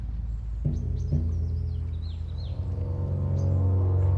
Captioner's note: birds chirping